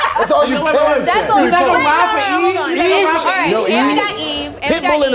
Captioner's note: laughing; overlapping chatter